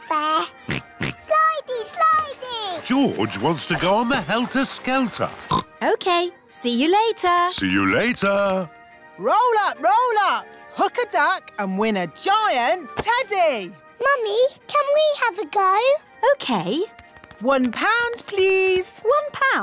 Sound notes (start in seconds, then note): 0.6 oinks; 5.4 oinks